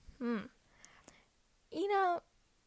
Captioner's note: inhale and smacks lip